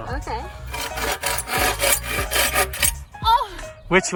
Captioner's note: blade scraping